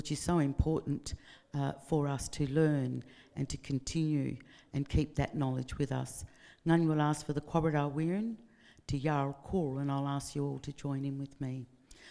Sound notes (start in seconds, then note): 7.0 speaking in foreign language